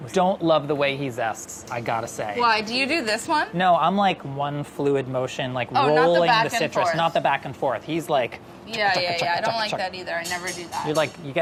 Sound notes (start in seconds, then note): 8.1 imitating repetitive smacking